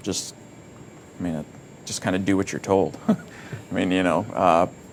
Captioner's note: giggles